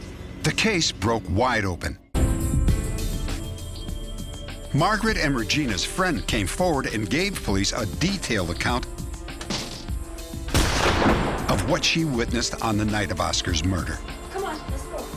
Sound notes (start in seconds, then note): 10.5 gunshot